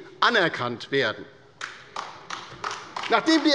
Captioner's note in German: Beifall bei der LINKEN